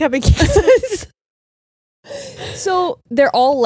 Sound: both laughing

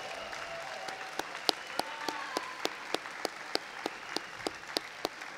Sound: audience applauding

